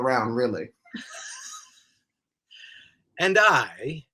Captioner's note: laughs